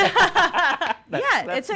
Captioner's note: loud laughs